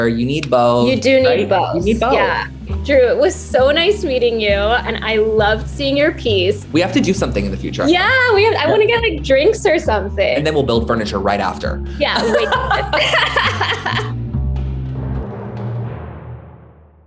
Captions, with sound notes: you need both. - You do need both. - Right? - You need both. - Yeah. Drew, it was so nice meeting you, and I loved seeing your piece. - We have to do something in the future. - Yeah, I want to get drinks or something. - And then we'll build furniture right after. - Yeah. [both laughing] [jaunty music]